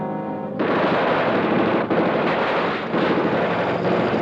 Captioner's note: gunshots blasting